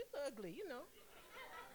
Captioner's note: laughter